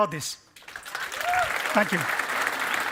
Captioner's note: applause and cheering